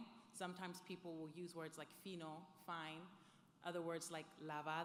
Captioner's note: speaks foreign language; speaking foreign language